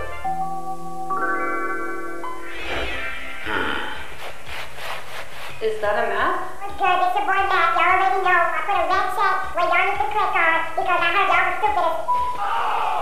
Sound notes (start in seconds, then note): 4.1 audible Lawn Scraping